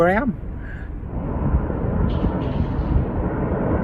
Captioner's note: plane engine noise